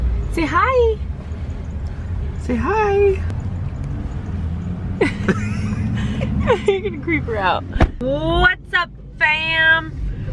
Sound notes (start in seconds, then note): 5.0 laughs